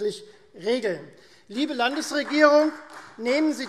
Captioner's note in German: Beifall Freie Demokraten